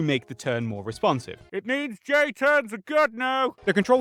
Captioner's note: away from mic